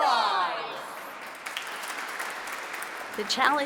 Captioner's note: applause